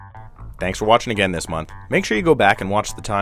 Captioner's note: male Voice